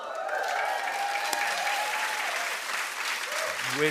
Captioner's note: cheering and applause